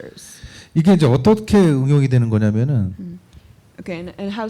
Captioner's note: speaking korean